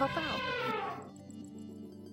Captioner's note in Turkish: Fil sesi efekti